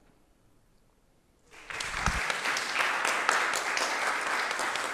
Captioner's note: applause